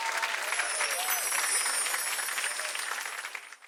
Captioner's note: chimes tinkling